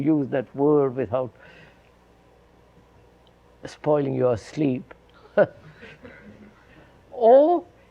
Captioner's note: laughs